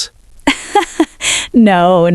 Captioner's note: laughs